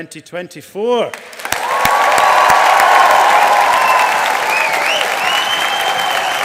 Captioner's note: audience applauding